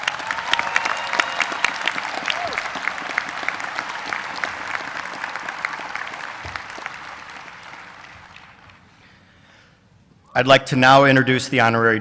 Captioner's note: applause